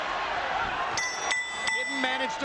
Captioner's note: bell rings